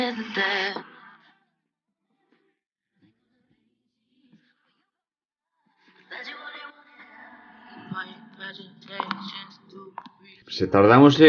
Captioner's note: silence due to the song copyright